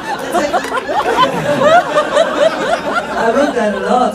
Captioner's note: laughs